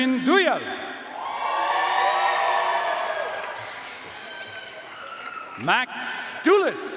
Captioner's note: audience cheering and applauding